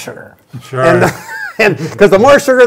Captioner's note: laughing